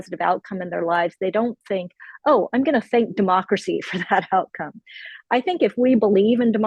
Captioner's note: laughs